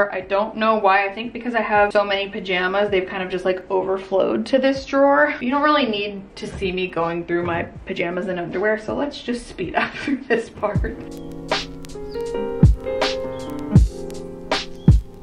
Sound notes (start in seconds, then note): 9.8 chuckles; 10.4 soft music